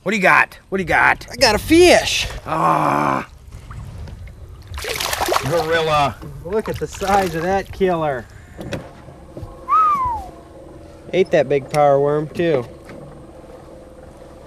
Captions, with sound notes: what you got? what you got? I got a fish ahh [Splash] gorilla Look at the size of that killer ate that big power worm too.